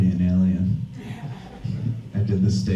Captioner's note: audience laughs